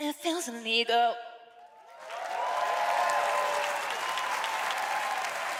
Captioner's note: cheering